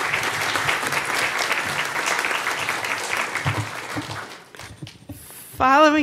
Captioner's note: applause